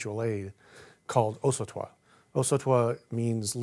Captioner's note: speaking in foreign language